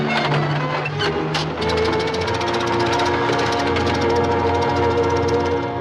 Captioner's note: engine sputtering